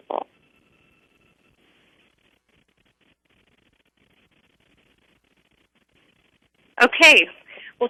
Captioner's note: pause